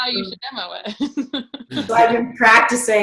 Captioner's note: laughs